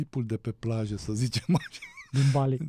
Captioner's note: laughter